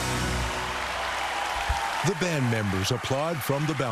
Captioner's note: song ends; cheering and applause